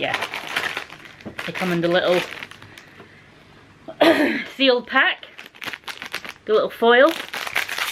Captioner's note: cough